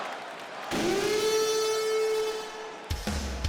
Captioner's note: alarm blaring; crowd cheers; heavy rock music